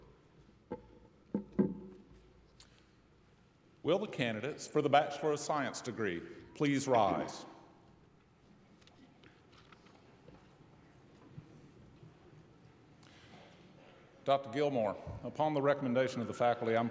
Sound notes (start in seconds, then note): none